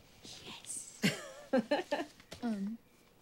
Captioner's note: Suzie laughs